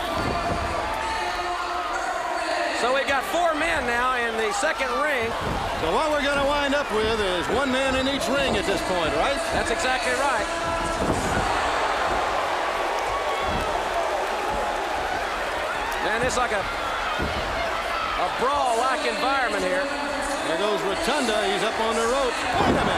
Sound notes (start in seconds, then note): 0.2 crowd chatter; 14.0 crowd chatter; 15.6 crowd cheering